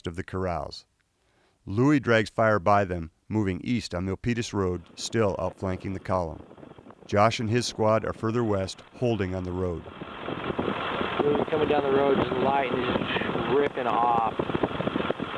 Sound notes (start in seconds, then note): 11.8 radio traffic